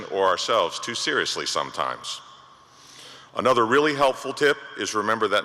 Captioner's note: none